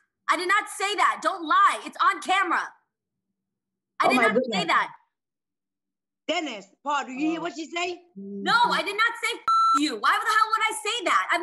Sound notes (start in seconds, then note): 9.4 beep